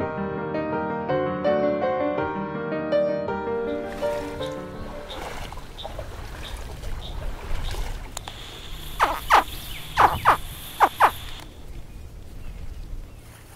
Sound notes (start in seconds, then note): 9.0 baby alligator grunts